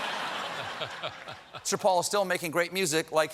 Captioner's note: laughter